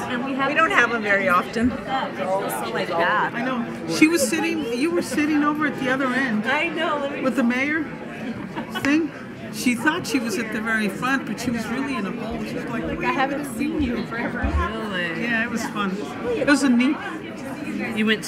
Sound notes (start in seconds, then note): 0.3 woman's Voice; 4.0 woman's Voice; 18.1 woman's Voice